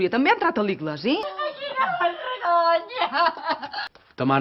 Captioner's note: cries desperately